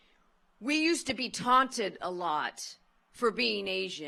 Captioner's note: none